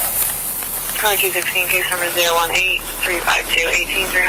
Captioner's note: officer On Radio